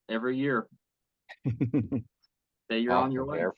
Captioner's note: laugh